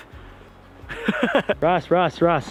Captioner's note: laughs